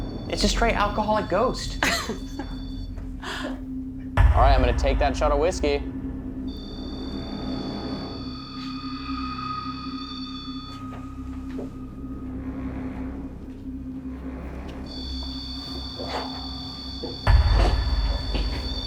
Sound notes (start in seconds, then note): 0.0 beeping; 6.1 beeping; 9.6 ominous music; 14.6 beeping